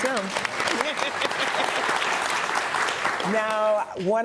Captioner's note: audience applauding